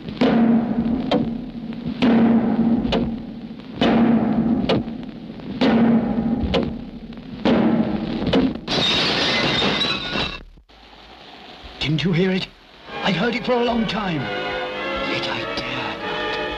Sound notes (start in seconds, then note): 8.6 glass smashes; 12.9 dramatic music